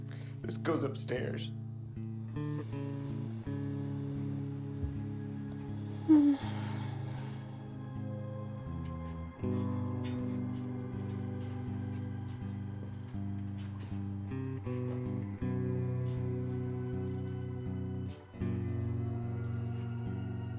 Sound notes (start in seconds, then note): 0.0 sad music; 5.8 Ruth sighs